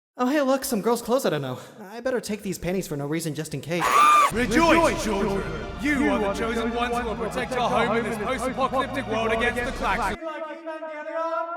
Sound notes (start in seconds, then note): 3.8 high Pitched Scream